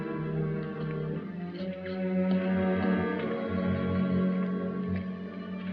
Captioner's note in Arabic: خطوات